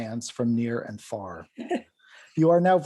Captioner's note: laughs